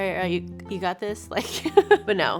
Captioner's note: laughs